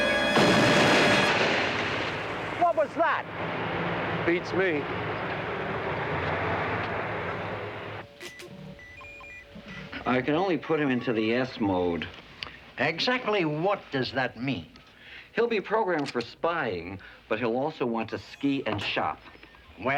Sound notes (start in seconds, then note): 0.0 booming; 7.3 beeping